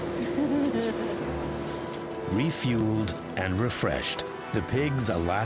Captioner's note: laughing